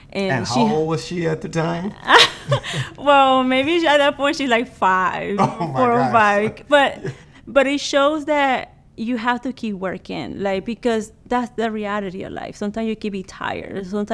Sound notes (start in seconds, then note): 2.3 laughs